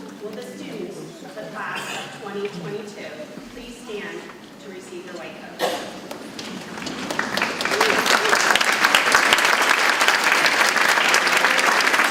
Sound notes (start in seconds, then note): 5.9 audience clapping